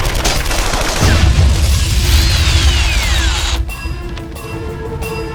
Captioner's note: explosion booms